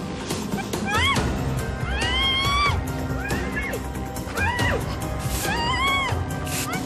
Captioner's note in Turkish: Bağırma